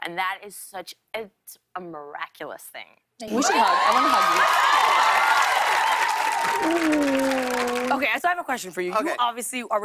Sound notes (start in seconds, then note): 3.3 cheers and applause